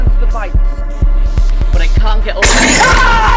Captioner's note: screams; creature roars